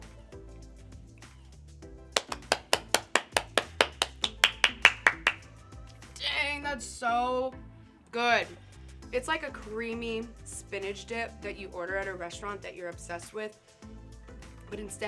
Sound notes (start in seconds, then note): 2.2 applauding